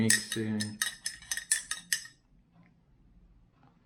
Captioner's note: spoon clinks